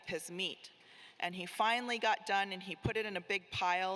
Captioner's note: none